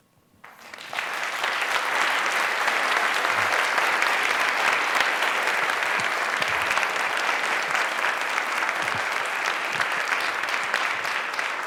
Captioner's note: applause